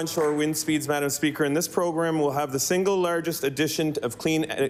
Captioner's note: applause